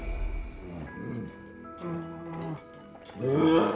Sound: moans softly; snarls

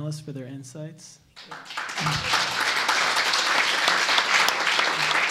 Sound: applause

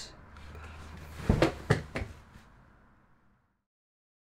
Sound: thudding

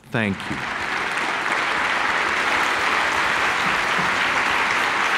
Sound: audience clapping

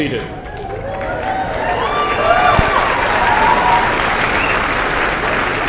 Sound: cheers and applause

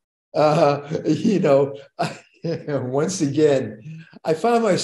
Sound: chuckles

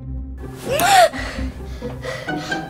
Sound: gasp

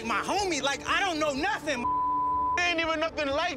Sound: beep

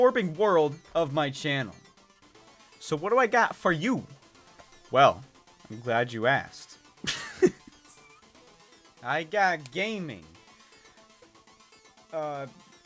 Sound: laughs

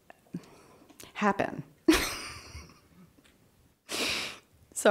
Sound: chuckles

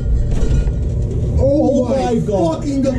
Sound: door opening

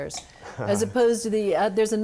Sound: laughs

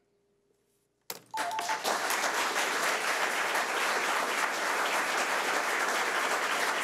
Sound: audience applauding; alarm beeping

